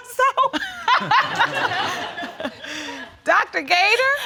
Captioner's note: all laughing